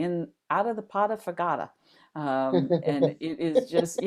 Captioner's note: laughing